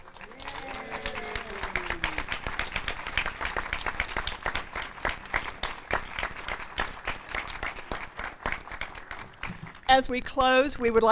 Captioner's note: applause